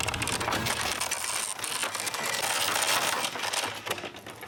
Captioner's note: wheel cranking